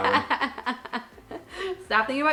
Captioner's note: laughs loudly